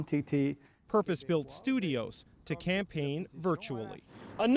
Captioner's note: speaking French